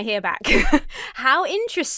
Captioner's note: laughs